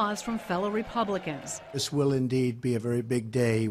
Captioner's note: applause